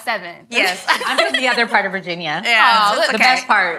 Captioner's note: ladies laugh